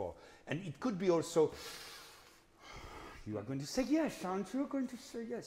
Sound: breathes deeply

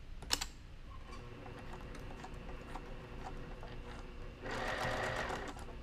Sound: machine whirring

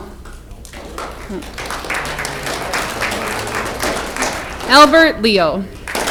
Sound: audience clapping

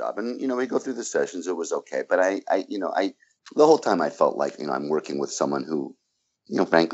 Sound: stammers

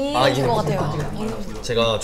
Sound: applause

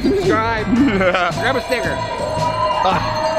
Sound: laughing

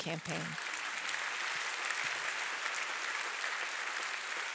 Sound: audience applauding

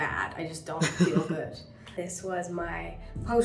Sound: Hyram laughing

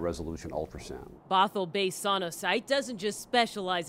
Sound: voiceover

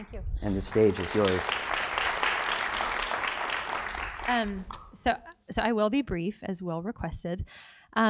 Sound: applause

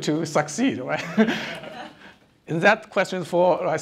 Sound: audience laughing

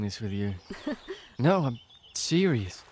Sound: laughs

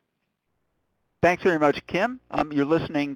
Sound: voiceover

